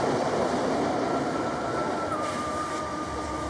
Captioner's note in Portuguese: barulho de trem; assobio suave